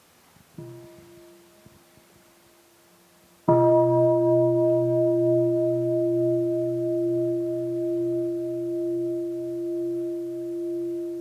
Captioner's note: bell chimes